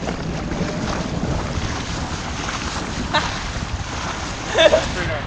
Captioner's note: water splashing